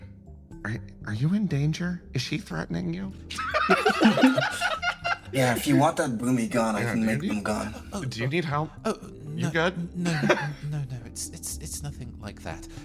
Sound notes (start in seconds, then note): 3.3 laugh